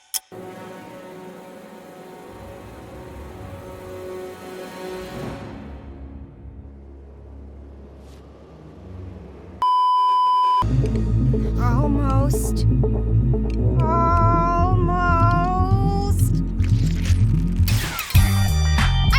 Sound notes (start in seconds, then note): 0.0 clock ticking; 9.6 beeeeeeeeeeeep; 16.2 gross detatching noises